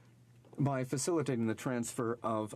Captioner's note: speaking in french